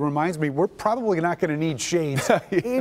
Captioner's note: laughter